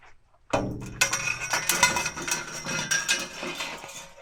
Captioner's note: metal clanging